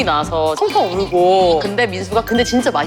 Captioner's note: Lala crying